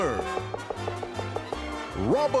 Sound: knocking

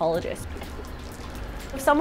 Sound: water sounds

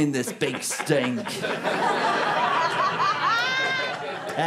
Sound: audience laughter

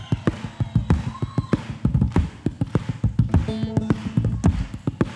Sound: rhythmic clapping

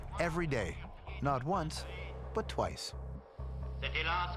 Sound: french dialogue

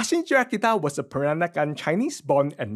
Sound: foreign speech

